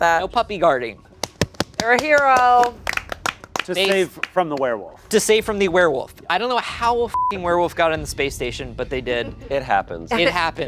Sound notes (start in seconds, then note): 1.2 clapping; 7.1 beep